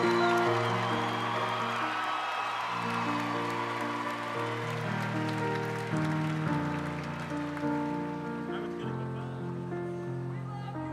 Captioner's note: cheering; piano music